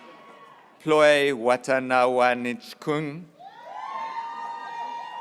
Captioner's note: graduates cheering